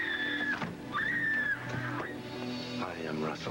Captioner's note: door opens